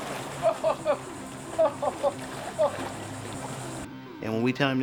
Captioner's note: laughs